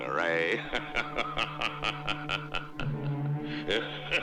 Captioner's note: laughing